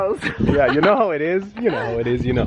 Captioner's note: laughs